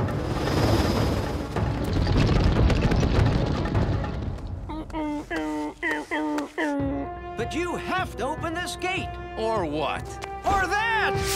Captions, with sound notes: [grunting] But you have to open this gate. - Or what? - Or that!